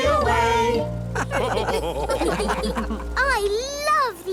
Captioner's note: all laugh